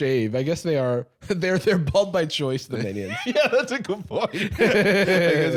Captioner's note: laughing